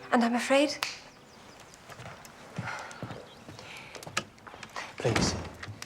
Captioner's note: Shinar clicks fingers